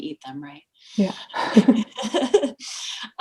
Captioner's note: laughing